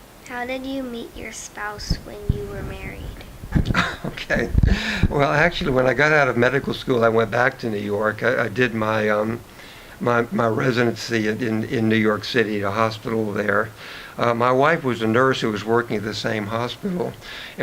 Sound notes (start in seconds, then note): 3.4 chuckles